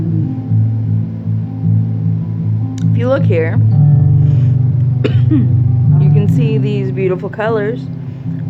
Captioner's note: cough